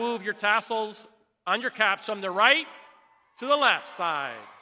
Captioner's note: crowd cheering